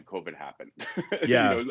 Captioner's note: laughs